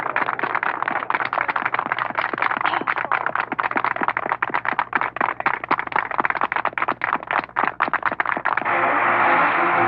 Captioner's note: applause